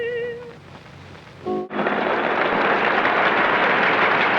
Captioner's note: crowd applauds